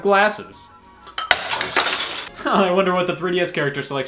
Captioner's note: glass shatters